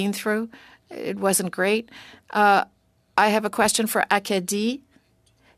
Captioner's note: speaking French